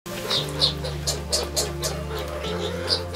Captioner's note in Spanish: Chirrido